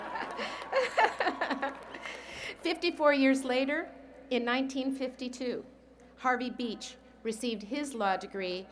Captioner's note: laughter